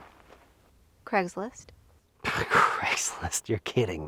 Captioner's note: scoffs